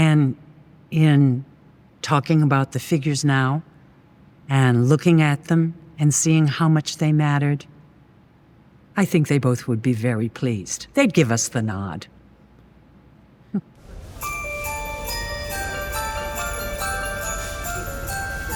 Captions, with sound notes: And in talking about the figures now and looking at them and seeing how much they mattered, I think they both would be very pleased. They'd give us the nod. (laughing) (upbeat music)